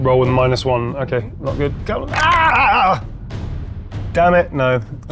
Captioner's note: die rattling